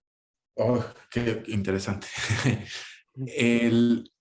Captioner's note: laughs